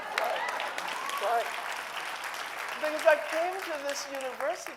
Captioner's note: audience applauding